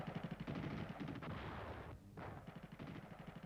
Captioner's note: guns firing